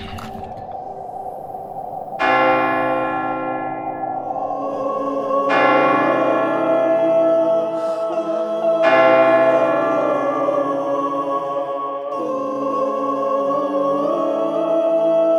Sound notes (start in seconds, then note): 0.3 wind howling; 2.2 bell ringing; 4.7 eerie choir singing